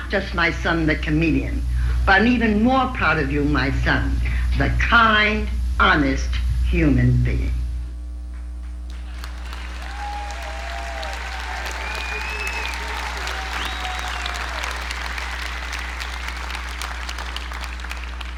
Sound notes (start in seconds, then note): 7.2 audience applauding